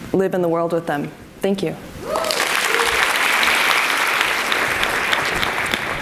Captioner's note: audience applauds and cheers